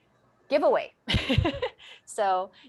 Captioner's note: moderator laughing